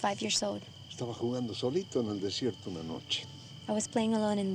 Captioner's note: speaking spanish